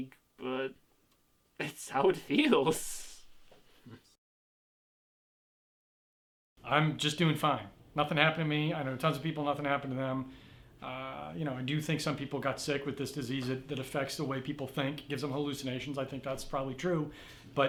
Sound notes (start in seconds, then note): none